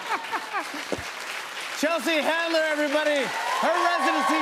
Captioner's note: laughter; cheers and applause